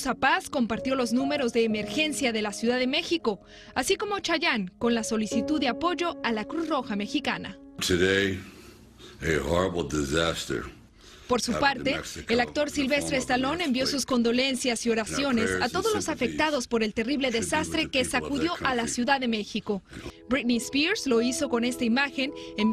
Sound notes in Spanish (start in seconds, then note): 13.0 hablan en inglés